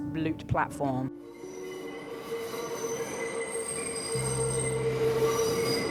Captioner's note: train wheels squealing; light piano music